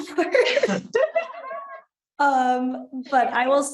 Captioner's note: all chuckles